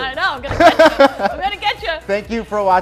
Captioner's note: laughing